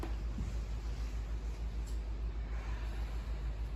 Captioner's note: inhale; exhale